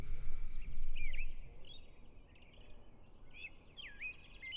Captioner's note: birds sing